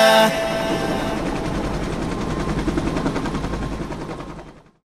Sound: helicopter buzzing

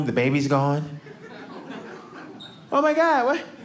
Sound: audience laughing

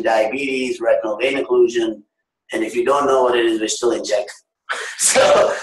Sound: laughter

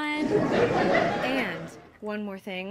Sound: audience laughs

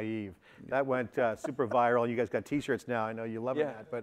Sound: laughter

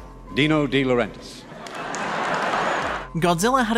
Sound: laughter

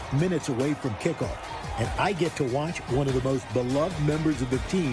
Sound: cheers and applause

